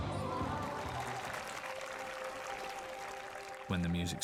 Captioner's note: applauding